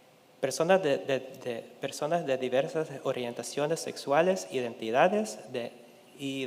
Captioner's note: speaking in Spanish continues